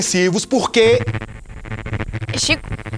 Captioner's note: interference